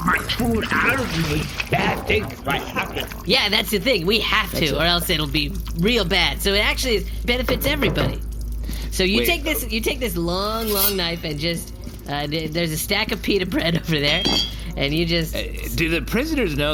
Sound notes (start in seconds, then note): 10.6 shing